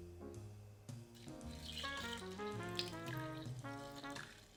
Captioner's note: liquid pouring